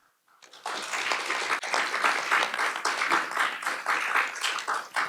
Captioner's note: audience and panelists applaud